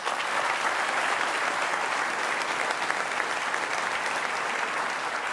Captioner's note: applause